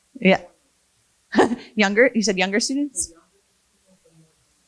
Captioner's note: laughs